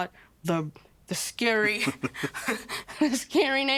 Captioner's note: laughing